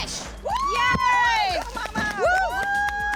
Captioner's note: cheering